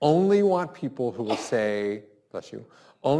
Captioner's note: sneezes